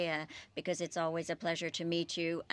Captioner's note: speaking French